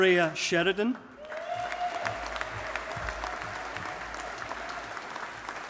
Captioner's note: audience applauding